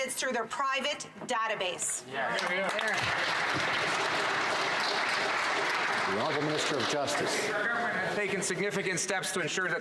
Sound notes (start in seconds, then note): 5.7 some Applause